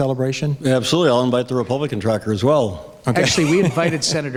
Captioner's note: laughs